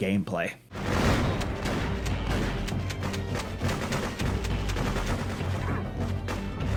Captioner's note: intense dramatic music; guns blasting